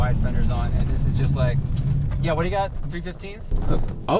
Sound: car stalls

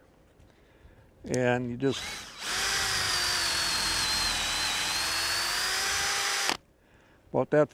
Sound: drill whirring

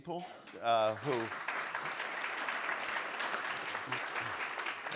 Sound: audience applauds

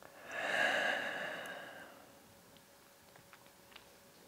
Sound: exhales

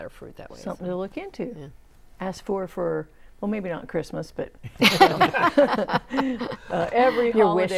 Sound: laughing

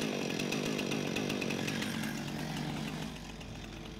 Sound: chainsaw revving

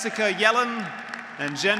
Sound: graduates applauding; graduates cheering

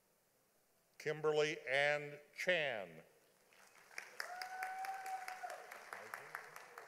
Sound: audience applauding

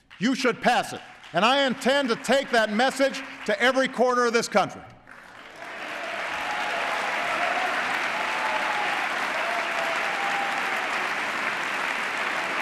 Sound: applause

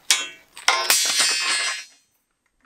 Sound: clang

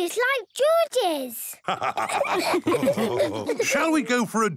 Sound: all laughing

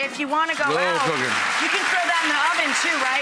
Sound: applause

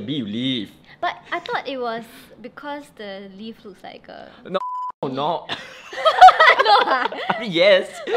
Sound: both laugh

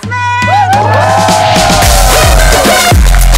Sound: people hooting

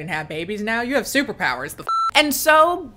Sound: beep

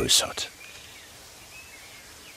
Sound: birds chirping

